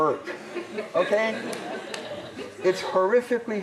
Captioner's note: laughter